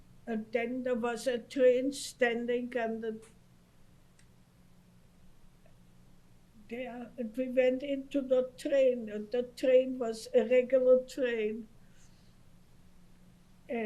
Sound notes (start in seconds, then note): 3.3 pauses for 3 seconds